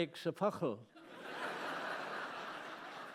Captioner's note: laughter